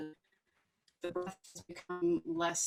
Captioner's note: faintly speaking